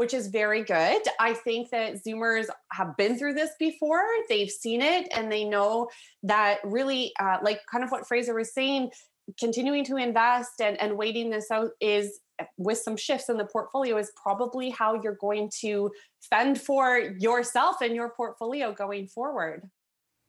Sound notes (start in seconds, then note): none